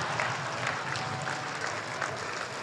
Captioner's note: applause